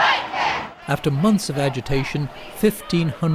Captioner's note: chanting